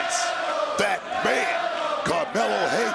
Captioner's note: crowd chants "melo"